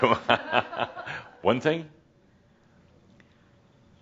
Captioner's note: Adamus chuckles